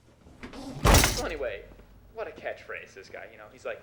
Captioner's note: man on TV